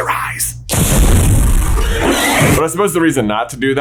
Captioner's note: shrieeeeeek